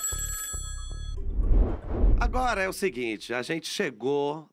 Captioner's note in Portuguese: telefone tocando